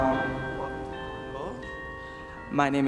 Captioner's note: speaking faintly